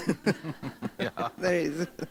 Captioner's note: laughter